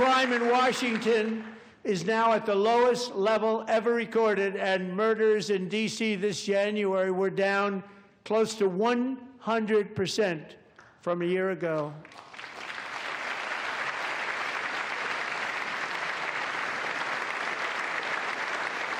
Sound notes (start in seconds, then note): 4.2 cheers and applause